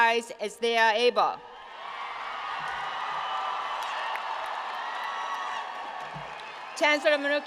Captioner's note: applause